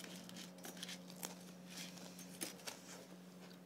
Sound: crunchy

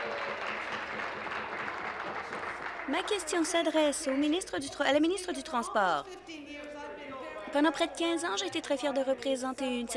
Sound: applause

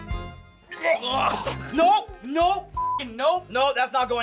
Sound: gagging

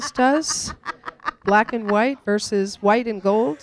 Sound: laughter

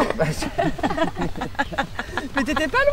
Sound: laughter

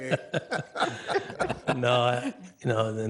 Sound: all laughing

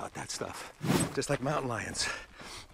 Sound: whishing

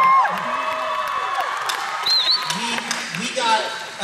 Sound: cheering

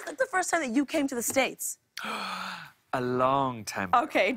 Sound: gasps

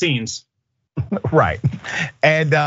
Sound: laugh

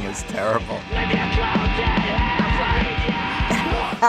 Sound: shrieking; chuckles

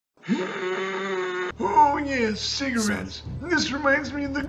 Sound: sustained groaning

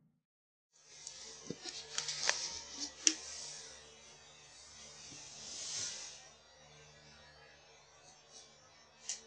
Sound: rustling

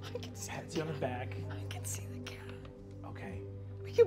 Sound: whispers

